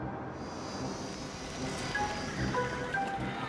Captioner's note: dramatic music; car engine humming; tires screeching